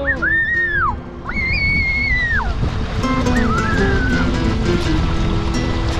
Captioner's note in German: schreit; klassische Musik